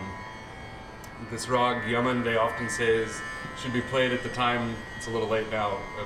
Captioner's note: non-english